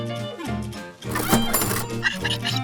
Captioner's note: cash register rings; parrot chirps